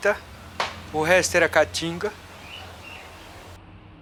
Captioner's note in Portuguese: Canto de pássaros; Som de tráfego na marginal